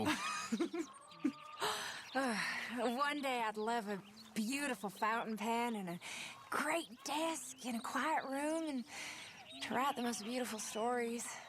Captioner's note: laughs